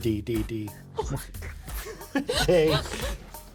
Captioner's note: chuckles